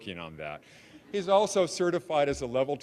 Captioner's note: audience laughing